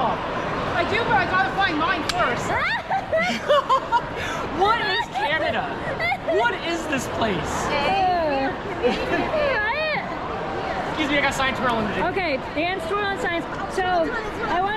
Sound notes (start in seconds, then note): 2.5 laughs